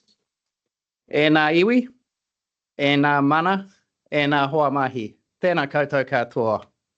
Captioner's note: speaking in te reo Māori